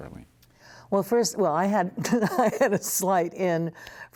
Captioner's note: laughter